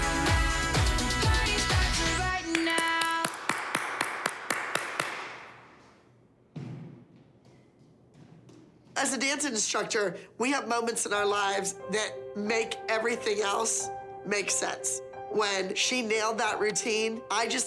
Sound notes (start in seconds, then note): 0.2 singing; 2.4 applause